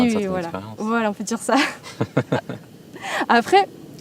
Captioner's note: laughs